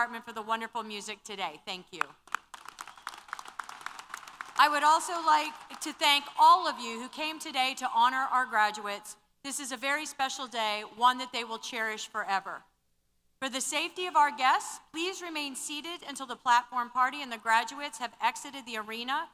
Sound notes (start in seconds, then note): 2.0 applause